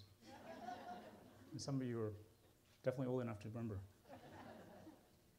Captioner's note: laughter